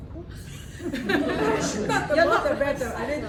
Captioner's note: laughter